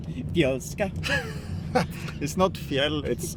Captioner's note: group laughing